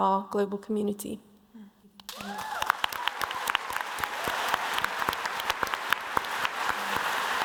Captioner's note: applause